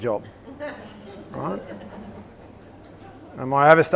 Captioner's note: laughter